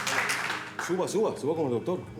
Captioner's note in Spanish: Aplausos